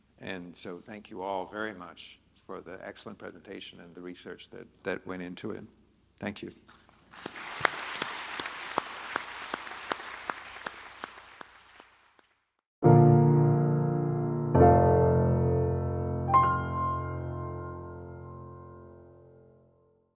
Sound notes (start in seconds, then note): 7.0 audience and panelists applauding; 12.8 serene music